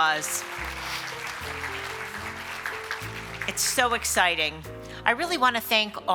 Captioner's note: applause